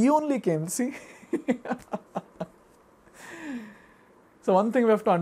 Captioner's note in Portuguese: risos